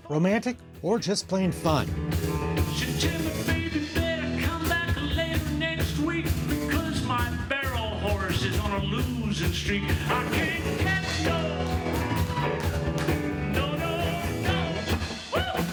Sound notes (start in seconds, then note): 1.6 singing; 9.8 audience cheering